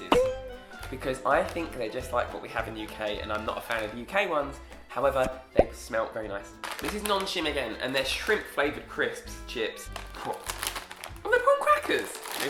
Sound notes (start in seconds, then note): none